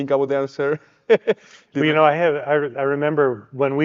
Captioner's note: chuckles